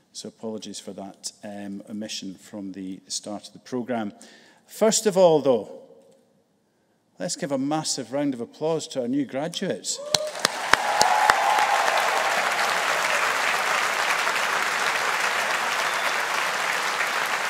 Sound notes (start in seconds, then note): 10.0 audience cheering; 10.0 audience applauding